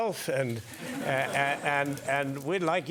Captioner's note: laugh